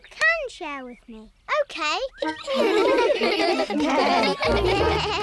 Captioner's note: giggling